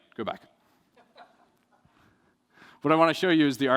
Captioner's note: laughter